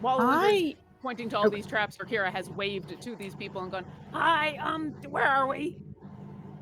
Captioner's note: none